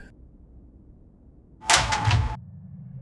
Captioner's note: door clatters shut